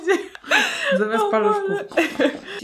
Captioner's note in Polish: śmiech